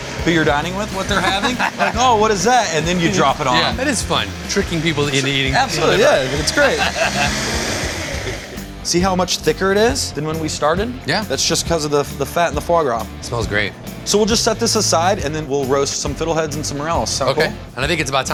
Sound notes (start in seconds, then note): 5.7 laughs